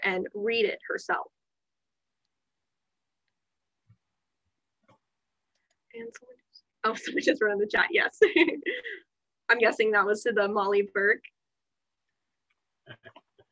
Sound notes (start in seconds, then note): 8.1 laughter